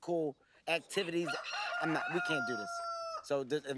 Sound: loud crowing

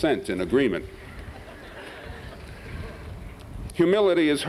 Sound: laughter

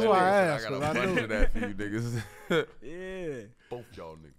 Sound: laughs

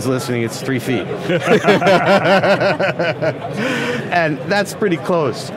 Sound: everyone laughs

